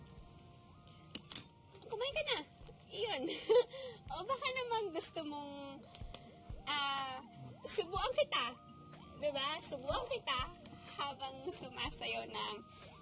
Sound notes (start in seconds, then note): 3.3 chuckles